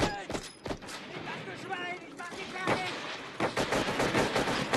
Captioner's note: german soldiers shouting